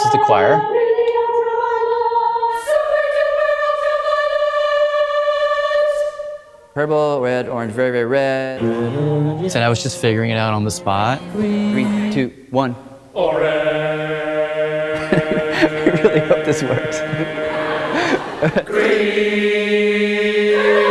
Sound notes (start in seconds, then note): 13.2 laughs; 17.2 people laughing